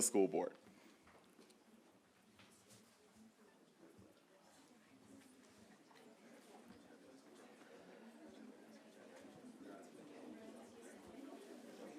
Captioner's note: background talking